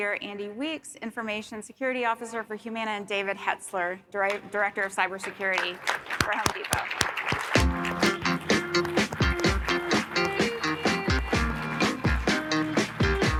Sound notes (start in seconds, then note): 5.2 audience applauding; 7.4 lively music